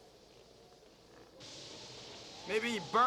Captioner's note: wind blowing